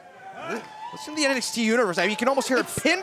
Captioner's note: crowd cheering